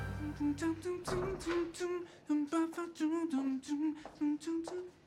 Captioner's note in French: chantonnement